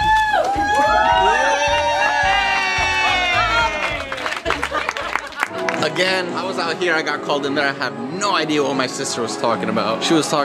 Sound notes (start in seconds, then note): 0.0 cheering; 0.6 clapping